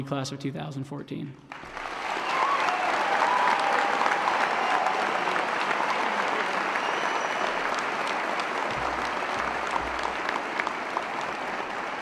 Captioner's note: applause & Cheering